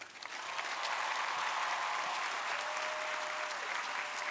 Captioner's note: crowd applauding